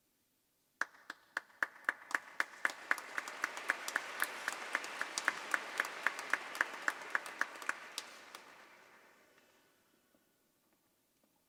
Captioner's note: applause